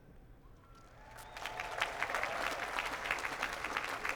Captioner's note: cheering and applause